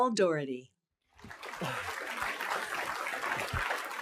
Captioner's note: applause